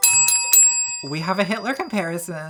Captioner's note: bell chimes